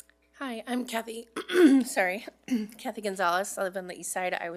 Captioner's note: clears throat